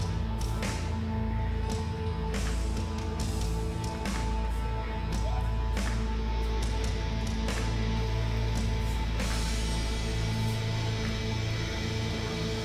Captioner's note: cheers & applause